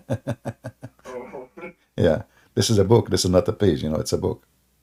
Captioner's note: Ketawa